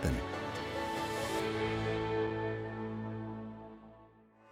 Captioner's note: people exclaiming